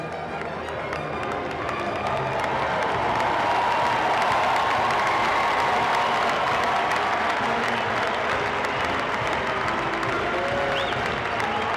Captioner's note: cheering and applause